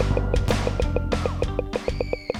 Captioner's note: audible screams